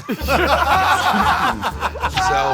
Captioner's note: Murr and Q laughing